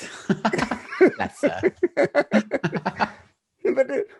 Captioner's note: both laughing